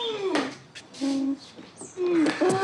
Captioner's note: wheezes